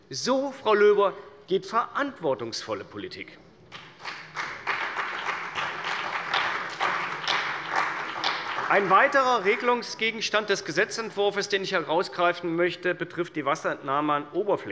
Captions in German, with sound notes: - So geht verantwortungsvolle Politik, Frau Löber. [Beifall bei der CDU und dem BÜNDNIS 90/DIE GRÜNEN] Ein weiterer Regelungsgegenstand des Gesetzentwurfs, den ich herausgreifen möchte, betrifft die Wasserentnahme an